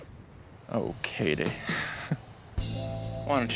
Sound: chuckles bashfully

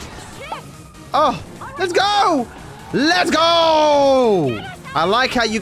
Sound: shouting Victoriously

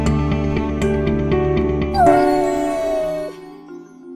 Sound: meow

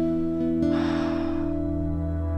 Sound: Terry sighs

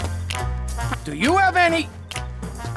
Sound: snapping

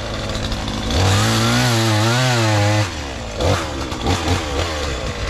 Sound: sawing

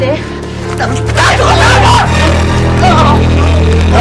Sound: groaning

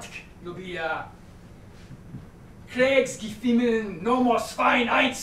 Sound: speaking a series of numbers in German

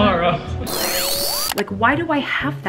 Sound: buzzing

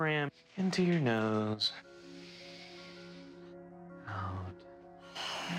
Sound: all breathing deeply

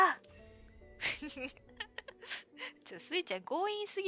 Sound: laughs

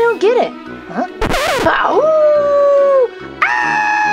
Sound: howling; record scratching; screaming

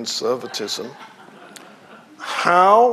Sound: audience laughing

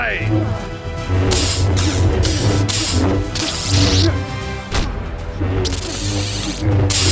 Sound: tense music; lightsabers clash

